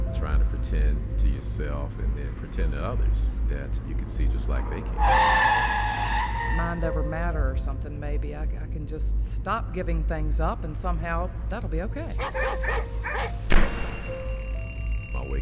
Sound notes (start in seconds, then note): 5.0 tires screeching; 12.2 dogs bark, bell rings